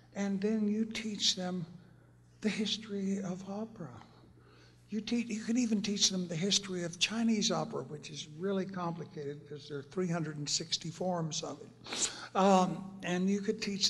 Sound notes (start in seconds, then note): none